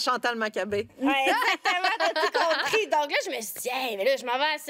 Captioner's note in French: rires